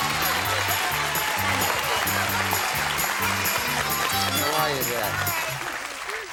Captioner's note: applause